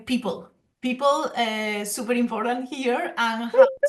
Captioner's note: laughs